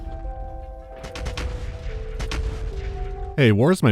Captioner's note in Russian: глухое грохотание гаубиц